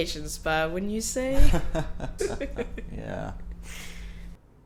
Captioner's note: chuckles